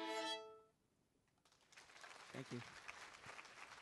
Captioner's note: applause